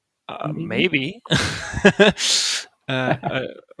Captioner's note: laughs; laughing